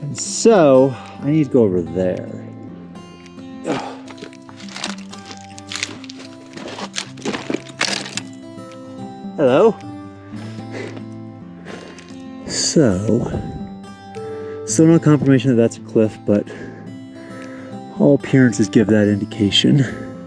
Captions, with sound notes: And so I need to go over there. (gentle music continues) (footsteps over gravel) Hello. So some of the confirmation that that's a cliff, but all appearances give that indication.